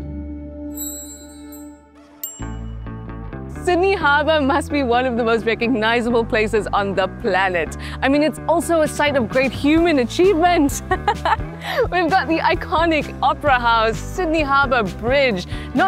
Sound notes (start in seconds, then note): 0.7 bells chime